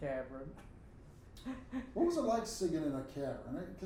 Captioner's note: laughing